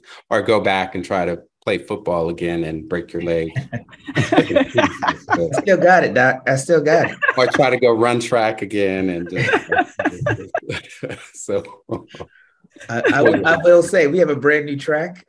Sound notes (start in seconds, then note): 3.1 all laughing; 9.6 laughing